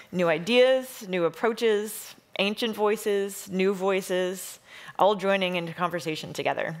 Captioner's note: none